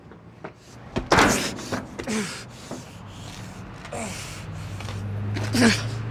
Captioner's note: Mark panting and grunting